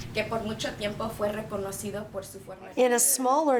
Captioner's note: speaking Spanish